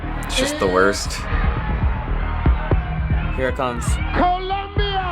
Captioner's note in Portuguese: aplausos da audiência